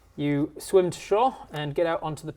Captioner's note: none